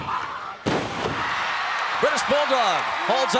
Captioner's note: audience cheering